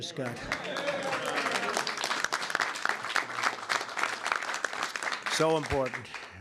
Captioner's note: applause